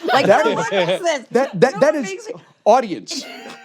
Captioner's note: laughter